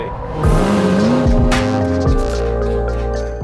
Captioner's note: engine revving; mellow music